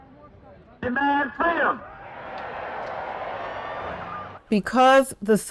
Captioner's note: cheering